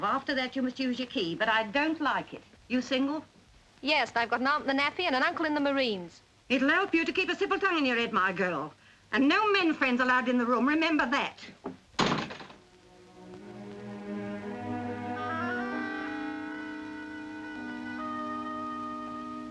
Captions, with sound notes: After that you must use your key, but I don't like it. Are you single? Yes, and I've got an aunt in the Navy and an uncle in the Marines. It'll help you to keep a civil tongue in your head, my girl. And no men friends are allowed in the room, remember that! [door thuds] [soft music]